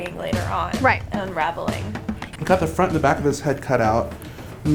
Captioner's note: laughs